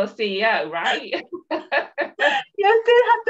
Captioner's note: laughs